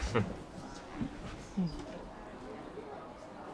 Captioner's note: laughing